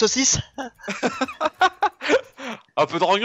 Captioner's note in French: Rires